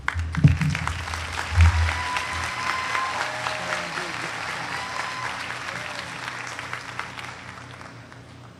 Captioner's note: applause